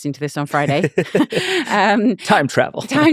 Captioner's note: laughing